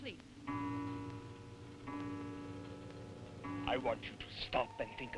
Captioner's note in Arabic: دقات الساعة